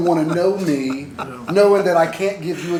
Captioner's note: laughter